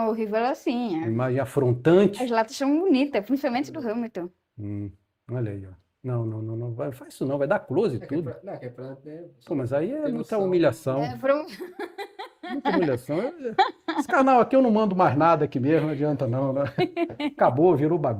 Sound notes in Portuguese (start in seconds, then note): 11.4 risadas